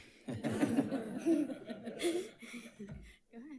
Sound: audience laughing

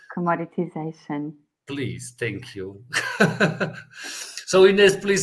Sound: laughs

